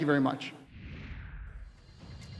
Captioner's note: voiceover